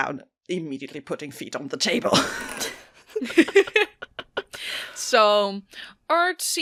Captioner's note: laughter